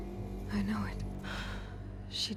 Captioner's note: sigh